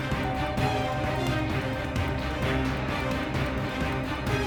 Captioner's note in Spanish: Timbre de la puerta